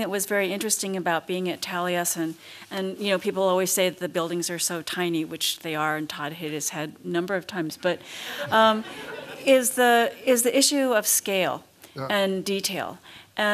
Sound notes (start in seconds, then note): 8.4 laughter